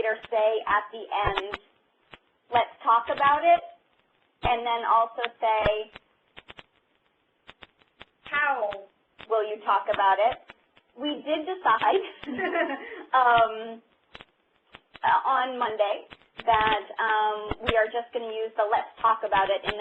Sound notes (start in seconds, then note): 12.0 laughter